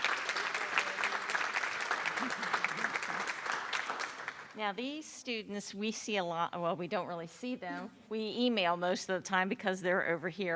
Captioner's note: applause